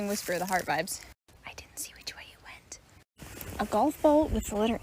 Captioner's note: whispered